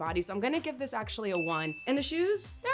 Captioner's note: bell ringing